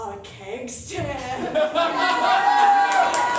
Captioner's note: laughter